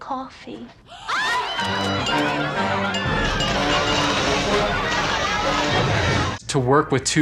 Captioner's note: crowd shouting; dramatic music